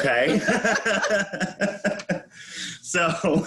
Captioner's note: both laughing